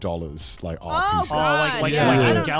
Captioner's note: men laugh